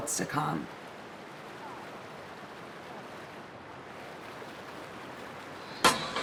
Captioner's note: water rushing and gurgling